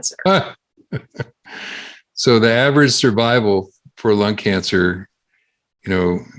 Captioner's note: laughs